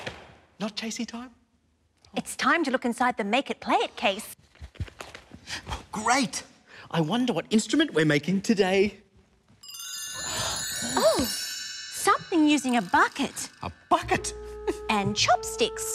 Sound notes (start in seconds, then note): none